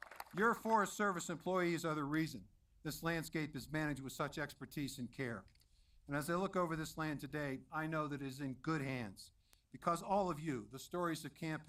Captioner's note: applause